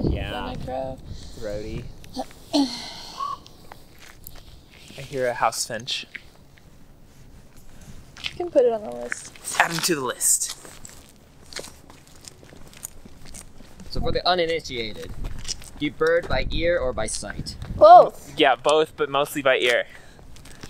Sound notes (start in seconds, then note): 2.2 caw; 2.2 clears throat